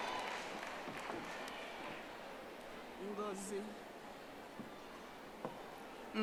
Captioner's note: audience applauding